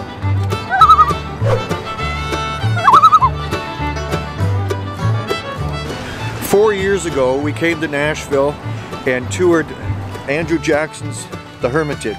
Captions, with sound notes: [loon call] [loon call] Four years ago we came to Nashville and toured Andrew Jackson's, The Hermitage.